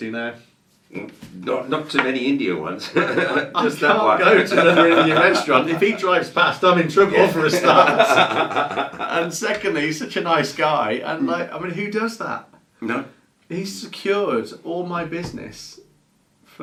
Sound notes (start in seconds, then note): 2.8 presenters laughing; 7.0 presenter laughing